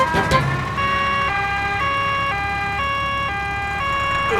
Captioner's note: siren wailing